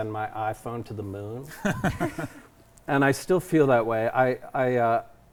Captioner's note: all chuckle